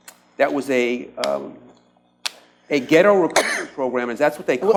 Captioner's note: coughs